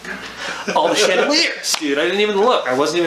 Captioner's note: laughs